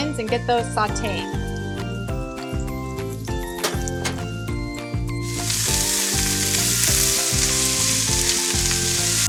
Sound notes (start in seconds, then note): 1.8 upbeat music continues; 5.2 food sizzling